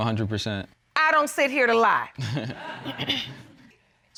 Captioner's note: audience laughing